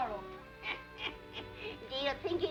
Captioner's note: woman laughs